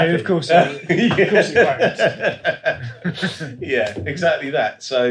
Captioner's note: laughing